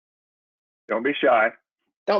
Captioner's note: silence